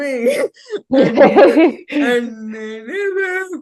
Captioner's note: both laughing